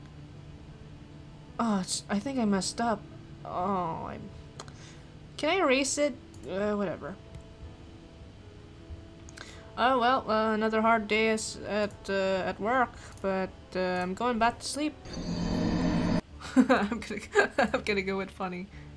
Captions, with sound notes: Ah, I think I messed up. Aww, I- [clicks tongue] Can I erase it? Eh, whatever. Ah, well, another hard day at work. But, uhm, I'm going back to sleep! [laughs] I'm gonna go with funny.